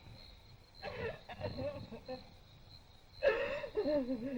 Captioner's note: sobbing